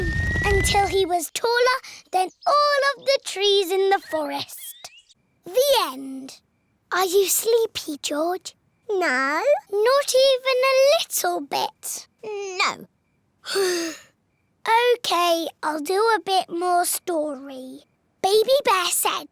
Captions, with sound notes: until he was taller than all of the trees in the forest. The end. Are you sleepy, George? -No. -Not even a little bit? -No! -(SIGHS) Okay, I'll do a bit more story. Baby Bear said,